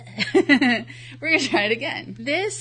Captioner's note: laughs